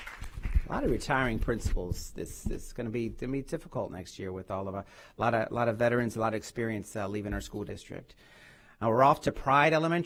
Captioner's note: applause